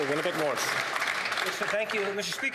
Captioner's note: some Applause